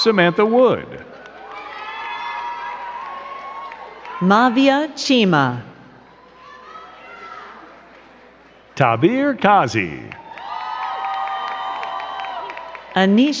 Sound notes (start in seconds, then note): 1.6 crowd cheering and clapping; 5.9 crowd cheering; 9.5 crowd cheering and clapping